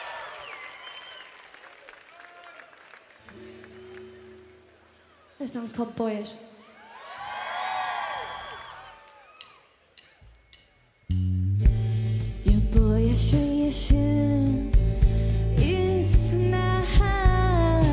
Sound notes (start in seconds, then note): 6.6 audience cheering